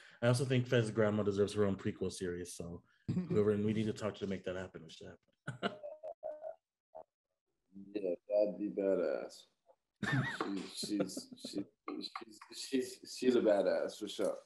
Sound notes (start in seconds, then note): 5.5 chuckling